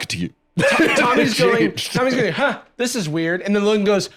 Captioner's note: laughs